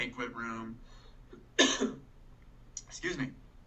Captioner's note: coughing